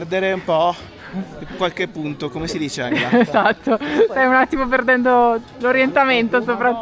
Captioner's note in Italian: risate